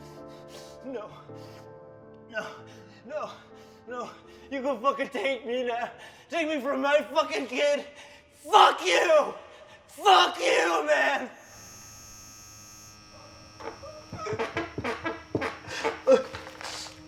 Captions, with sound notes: No, no, no, no! You gonna fuckin' take me now, take me from my fuckin' kid. Fuck you! Fuck you, man! (light bulb buzzing) (chair creaking)